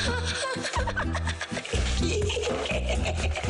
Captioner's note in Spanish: Risas